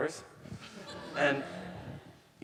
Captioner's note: audience laughing